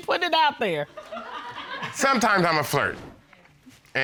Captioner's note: audience laughing